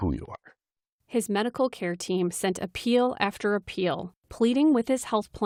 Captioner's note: voice-over